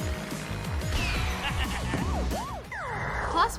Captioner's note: chuckles